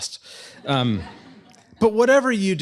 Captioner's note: laughter